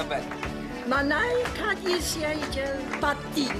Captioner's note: speaking lithuanian